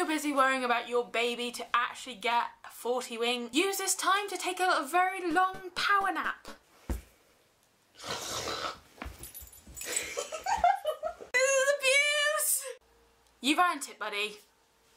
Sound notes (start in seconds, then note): 8.0 exaggerated snoring